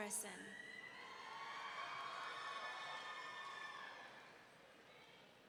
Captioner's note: audience cheering